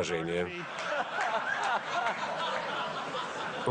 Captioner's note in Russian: Смех